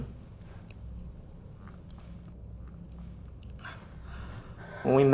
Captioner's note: fire crackling